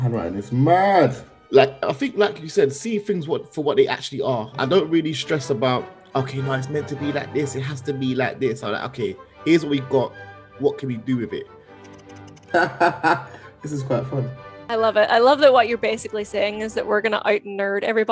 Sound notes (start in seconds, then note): 12.4 laughing